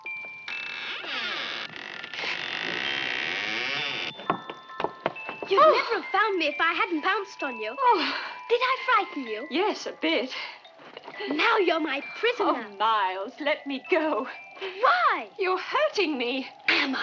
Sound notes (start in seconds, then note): 0.1 door hinges creaking; 5.4 gasps